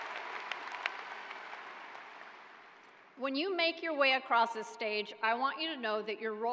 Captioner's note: cheering